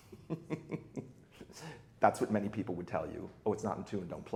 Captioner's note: laughs lightly